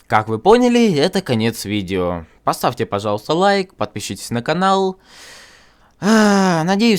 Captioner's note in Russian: тяжело вздыхает